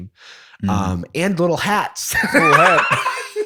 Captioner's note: laughter